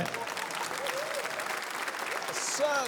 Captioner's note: applause